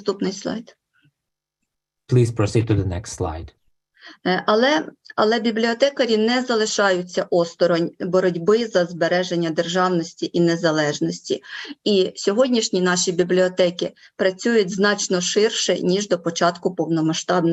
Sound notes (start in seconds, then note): 4.4 foreign Language Spoken